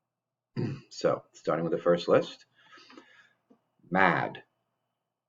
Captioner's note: clears throat